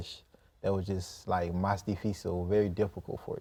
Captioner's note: in Spanish